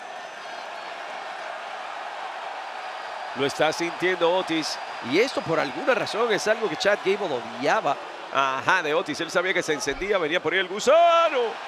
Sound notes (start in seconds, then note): 1.6 applause